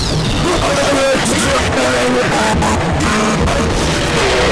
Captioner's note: extremely distorted